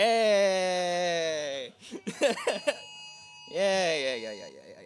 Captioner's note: alarm sounding